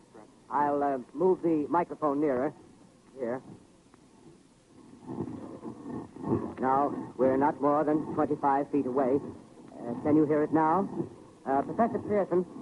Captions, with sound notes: I'll move the microphone nearer, here. (louder scraping sound) Now we're not more then 25 feet away. Can you hear it now? Professor Pierson!